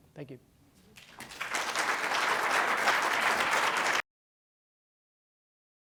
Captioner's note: applause